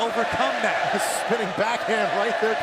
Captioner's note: crowd cheering